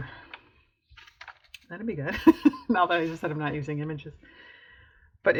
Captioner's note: laughs